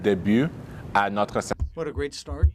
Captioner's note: speaking in French